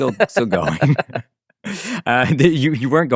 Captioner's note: group laughs